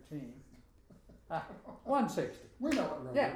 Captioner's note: both laughing